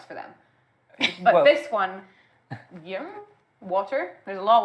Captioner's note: vague sound of agreement